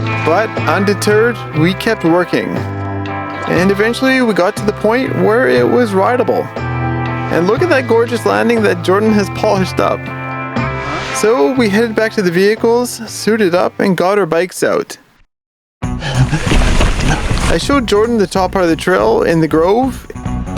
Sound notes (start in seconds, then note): 16.0 labored breathing